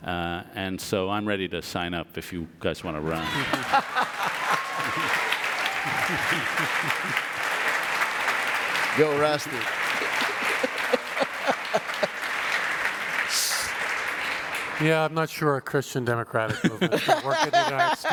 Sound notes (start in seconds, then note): 6.4 audience applause and laughter